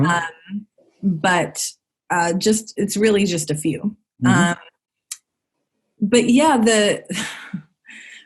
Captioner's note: sigh